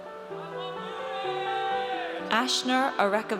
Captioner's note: audience cheers